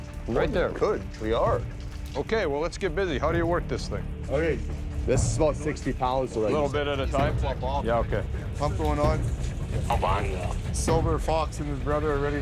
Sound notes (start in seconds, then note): 9.2 man on radio